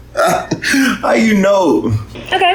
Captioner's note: chuckles